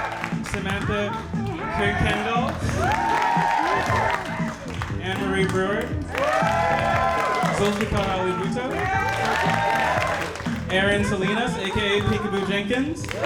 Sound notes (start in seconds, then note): 0.0 audience applauding; 6.1 audience applauding